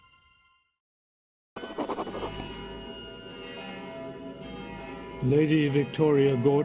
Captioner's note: bells